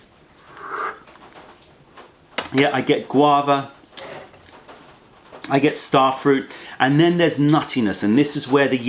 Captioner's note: sips tea